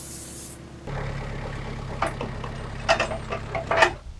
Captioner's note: engine revving